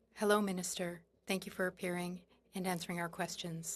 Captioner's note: speaking French